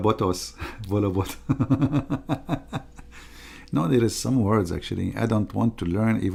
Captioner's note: Ketawa